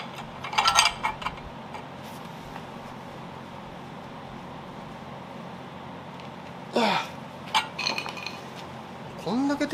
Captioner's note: working sound